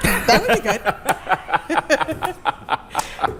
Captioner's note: laughter